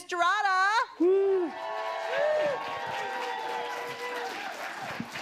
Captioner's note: audience applauding